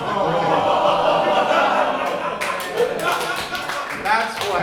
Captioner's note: audience laughing